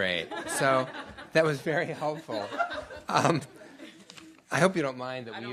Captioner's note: laughter